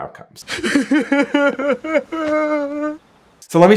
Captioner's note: man sobbing